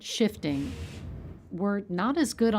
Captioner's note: machine whizzes